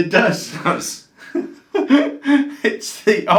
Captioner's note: laughs; both laughs